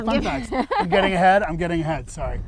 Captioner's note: laughing